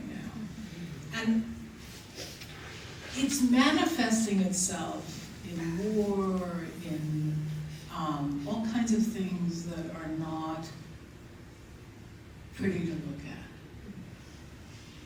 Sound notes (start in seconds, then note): none